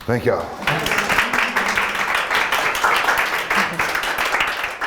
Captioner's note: audience applauding